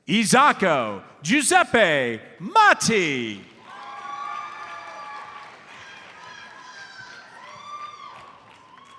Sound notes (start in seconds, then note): 3.5 audience cheers and applauds